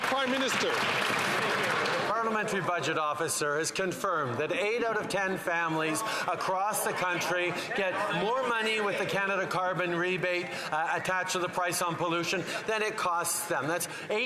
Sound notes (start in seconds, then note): 2.8 some Applause